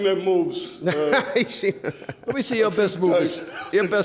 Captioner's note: laughs